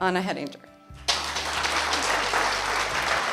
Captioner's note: applause